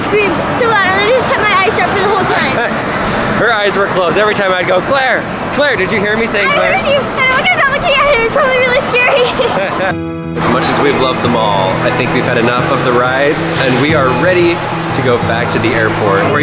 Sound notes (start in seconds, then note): 10.0 laughs